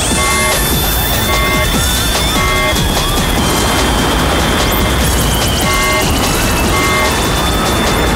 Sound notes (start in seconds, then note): 0.0 horn blows; 0.1 screams